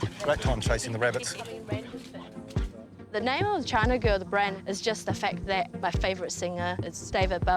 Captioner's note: light chatter